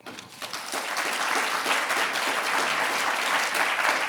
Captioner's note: audience applauding